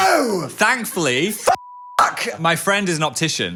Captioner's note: beep